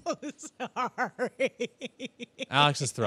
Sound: laughs

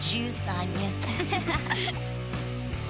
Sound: laughing

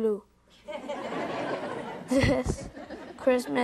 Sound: audience members laughing

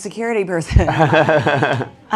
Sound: chuckling

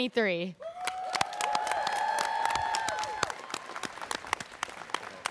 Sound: students cheering

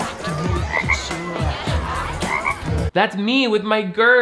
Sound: frog croaks

